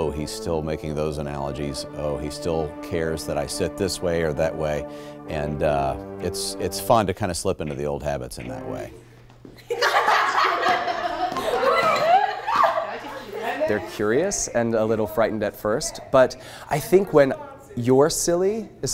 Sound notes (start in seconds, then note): 9.5 students laughing